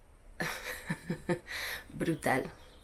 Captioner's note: laughs in dispair